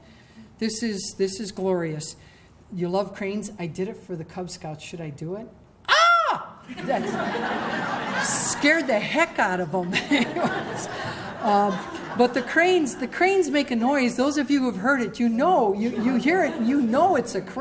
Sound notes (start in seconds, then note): 5.5 imitates crane call; 6.7 laughter